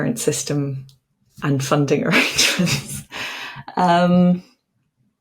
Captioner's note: chuckles